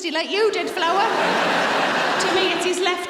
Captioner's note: audience laughing